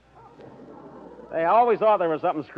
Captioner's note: audience laughter